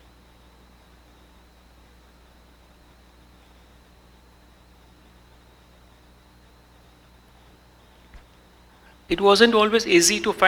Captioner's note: silence